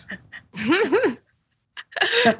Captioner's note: laugh